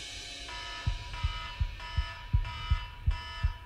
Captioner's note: tense instrumental music; alarm blares